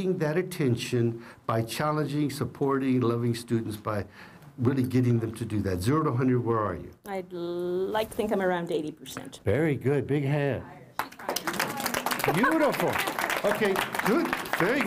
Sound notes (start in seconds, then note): 11.0 applause